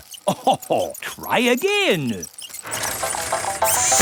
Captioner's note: chuckles